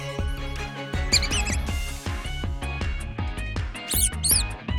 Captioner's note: squeaks; squeaks